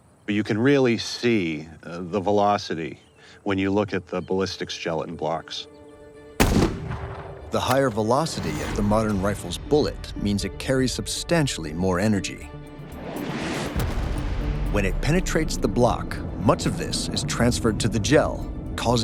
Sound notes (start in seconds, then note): 6.4 rifle blasts; 13.1 bullet whooshes